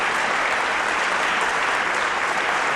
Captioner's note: applause